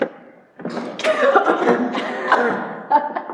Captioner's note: coughs; laughs